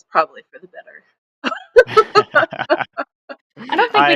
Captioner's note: laughs